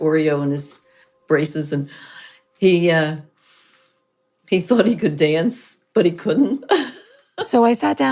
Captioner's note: laughs